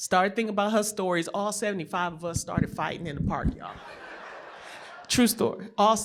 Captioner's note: laughter